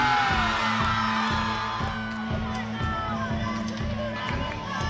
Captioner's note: audience clapping